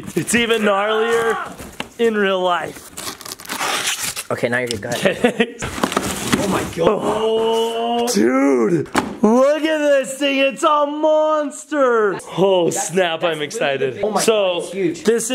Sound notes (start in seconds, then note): 2.6 scratching sound; 4.9 chuckles